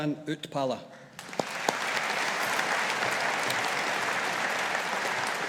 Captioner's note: audience applauding